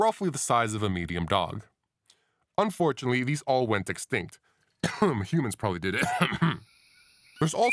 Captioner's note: cough